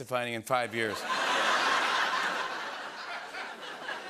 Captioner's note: laughter